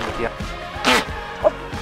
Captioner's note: alpaca snorts